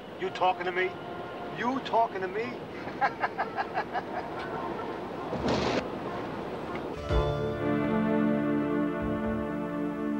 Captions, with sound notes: You talking to me? You talking to me? (cabbie laughs) (tense music)